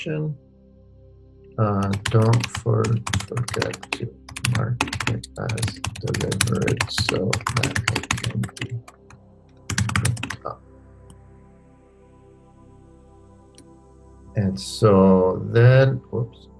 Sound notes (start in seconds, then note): 2.2 keyboard clicking